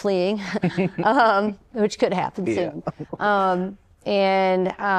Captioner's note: laughter